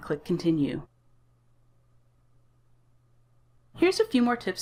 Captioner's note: silence